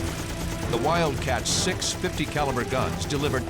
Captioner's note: gunshots